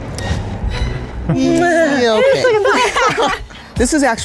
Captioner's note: laughs